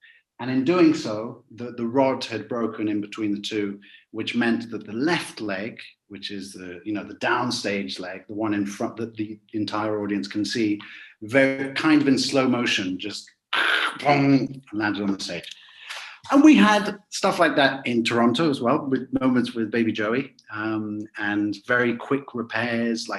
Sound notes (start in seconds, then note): 13.6 crackle